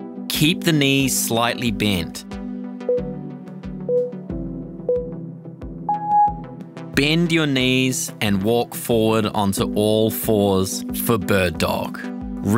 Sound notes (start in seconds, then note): 2.9 timer beeping